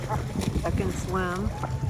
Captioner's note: none